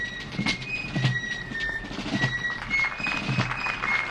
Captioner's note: applause